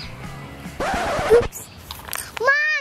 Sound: record Scratch

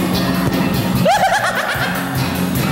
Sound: laughing

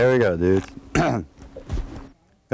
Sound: clear his throat

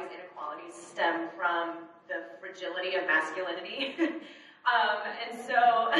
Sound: chuckles

